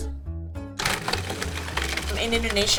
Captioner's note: blender whirring